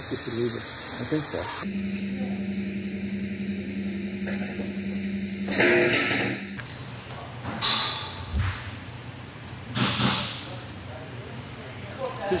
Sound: rumbling

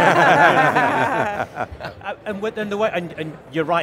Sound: all laugh

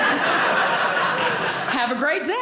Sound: audience laughing

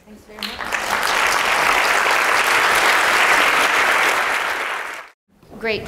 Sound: applause

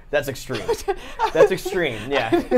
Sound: laughs

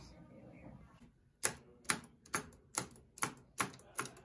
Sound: punching buttons

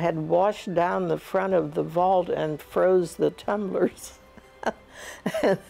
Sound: laughs

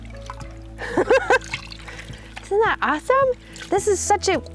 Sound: laughs

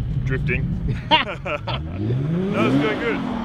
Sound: both laughing

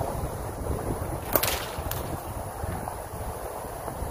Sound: whip cracks

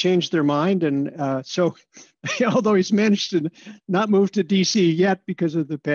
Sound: laughter

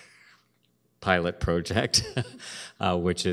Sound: chuckles

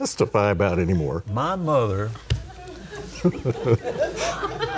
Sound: all laughing

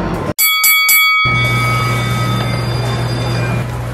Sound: bell ringing

